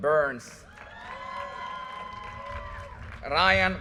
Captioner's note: audience cheers and applause